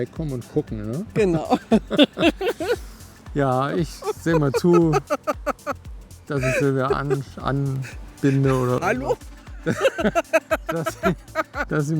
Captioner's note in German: gelächter; gelächter